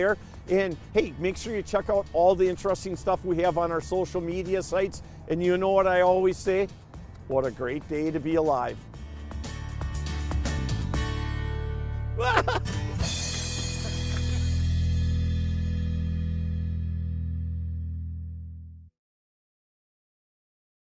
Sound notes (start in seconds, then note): 9.2 upbeat music; 12.3 yelling; 13.5 cymbals clashing